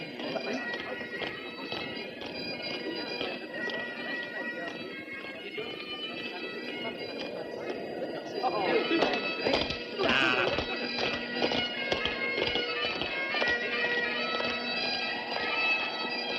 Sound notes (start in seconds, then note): 8.5 indistinct chatter